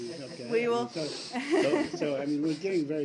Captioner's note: laughter